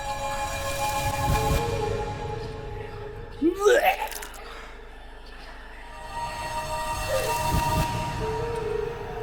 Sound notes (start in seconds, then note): 3.4 vomiting sound